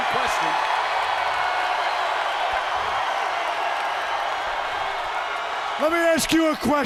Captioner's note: crowd cheering